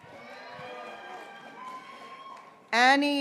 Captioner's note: graduates cheering